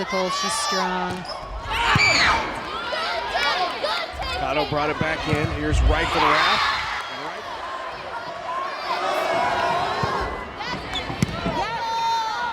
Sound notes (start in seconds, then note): 2.2 players yelling; 5.8 players yelling excitedly